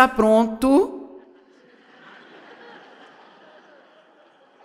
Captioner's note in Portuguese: audiência ri